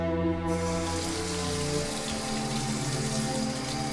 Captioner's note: running water